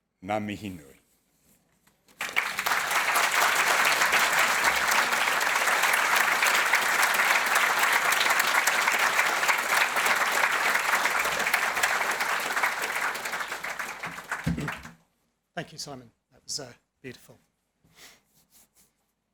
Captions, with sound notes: (speaking foreign language) (audience clapping) - Thank you, Simon. That was beautiful.